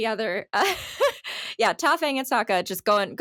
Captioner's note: laughing